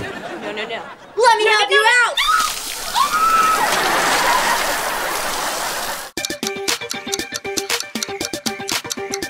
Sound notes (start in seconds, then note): 2.1 screaming; 3.4 laughing; 6.1 clock ticking